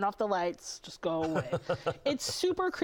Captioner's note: laughter